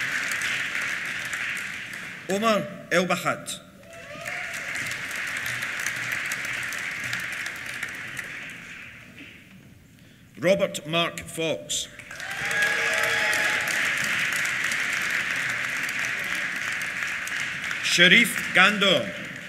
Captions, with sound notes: Omer Elbahat. (CHEERS) (APPLAUSE) Robert Mark Fox. (CHEERS) (APPLAUSE) Sherif Ghandour.